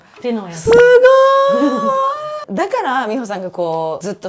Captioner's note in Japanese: 叫び声